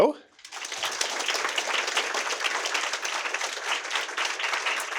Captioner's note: audience applauding